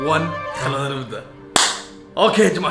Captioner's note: claps